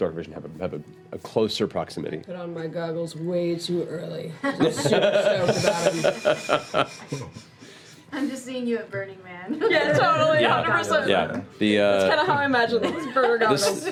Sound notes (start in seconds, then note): 6.2 laughter